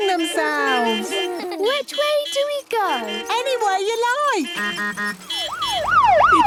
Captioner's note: laughter; honking, siren wailing